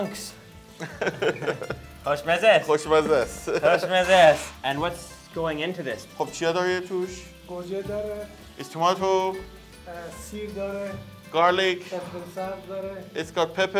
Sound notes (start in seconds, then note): 0.7 laughs; 2.0 speaks in foreign language; 6.4 speak in foreign language